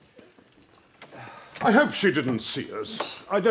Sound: sighs

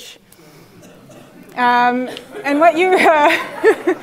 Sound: laugh

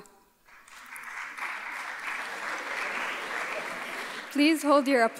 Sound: audience applauding

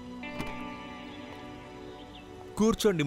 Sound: car door opens

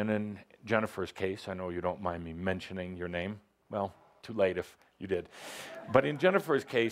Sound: laughter

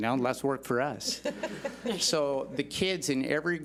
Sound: laughs

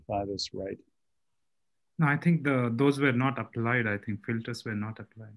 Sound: calm Voice

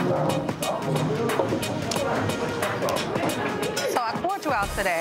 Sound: people chattering

